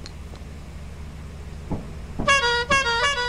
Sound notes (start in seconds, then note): 2.1 honk